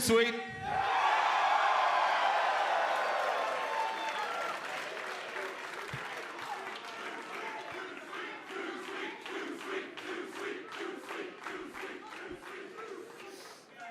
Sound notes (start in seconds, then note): 3.5 cheers and applause; 9.8 fans chanting